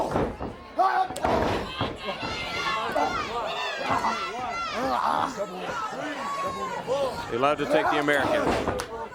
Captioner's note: crowd chatter